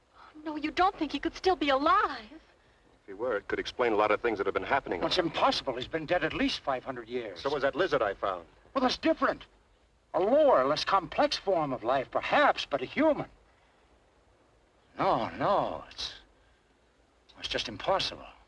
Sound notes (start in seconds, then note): none